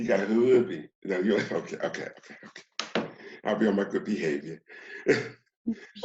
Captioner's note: laughs